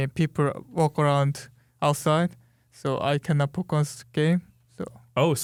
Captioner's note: none